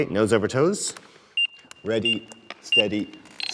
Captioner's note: equipment beeps